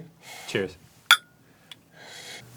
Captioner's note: clink